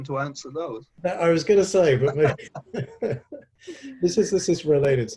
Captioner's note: both laughing